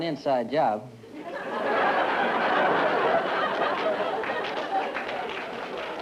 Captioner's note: laughter, applause